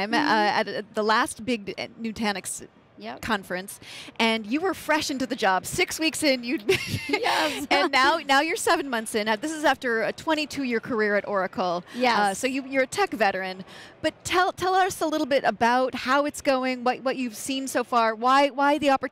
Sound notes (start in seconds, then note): 6.8 laughs